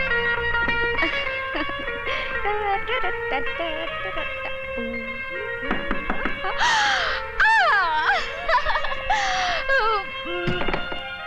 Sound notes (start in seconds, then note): 0.7 chuckles; 2.2 humming; 5.6 door knocks; 6.5 gasps; 8.5 laughs